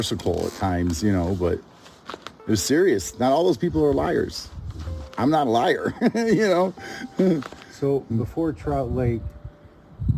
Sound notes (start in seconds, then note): 5.8 laughs